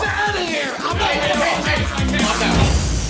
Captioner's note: yelling